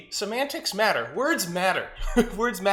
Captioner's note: laughs